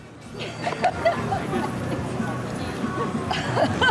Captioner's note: laughing